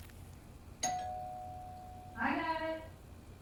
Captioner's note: doorbell ringing